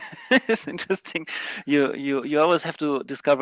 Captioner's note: laughing